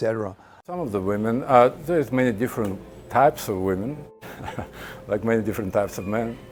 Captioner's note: laughing